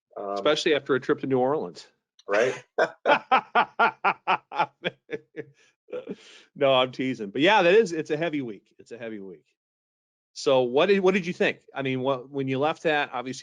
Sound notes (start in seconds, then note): 2.3 both laughing